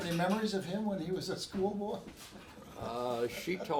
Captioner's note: laughs